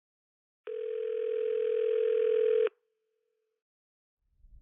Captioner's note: phone ringing